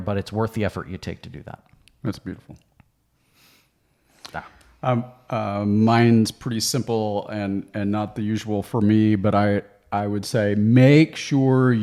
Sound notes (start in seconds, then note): none